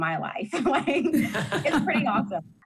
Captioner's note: laughter